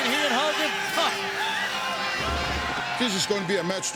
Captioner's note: crowd cheering